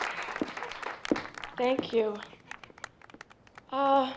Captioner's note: on microphone